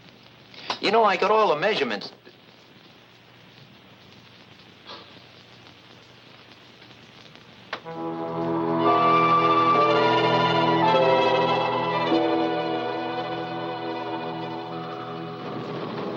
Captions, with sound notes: - You know, I got all the measurements. (wind whistling) (dramatic music)